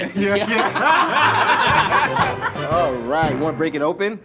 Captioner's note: all laughing